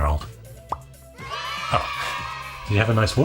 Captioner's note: children cheering